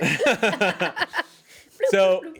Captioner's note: everyone laughs